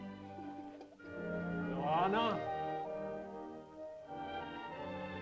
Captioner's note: man calls out to girl; soft music